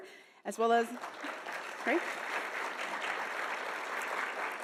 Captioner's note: audience applauding